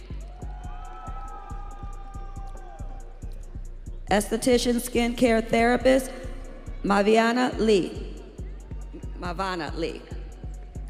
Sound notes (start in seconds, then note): 3.1 audience cheering